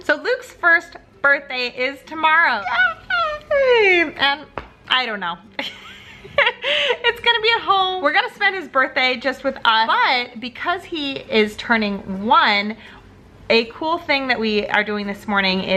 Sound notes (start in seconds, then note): 5.6 laughs